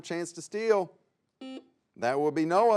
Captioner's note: buzzer sounds